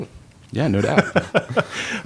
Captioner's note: laughter